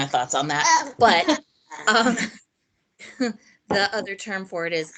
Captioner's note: laughing